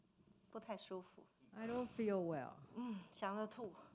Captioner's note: speaking Mandarin